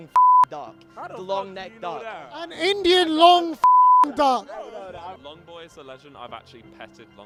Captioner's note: beep; beep